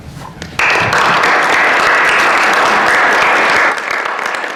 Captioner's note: applause